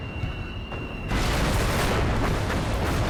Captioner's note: explosion